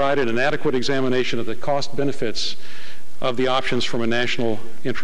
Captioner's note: none